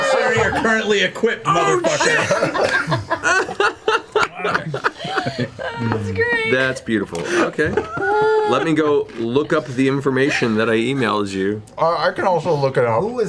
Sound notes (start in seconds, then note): 3.1 all laugh